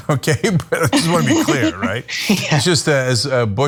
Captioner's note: laugh